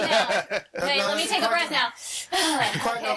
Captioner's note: wheezing